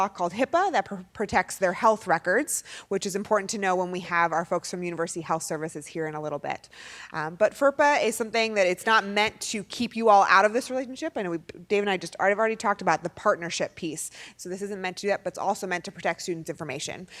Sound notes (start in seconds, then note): none